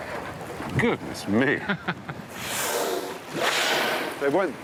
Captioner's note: laughs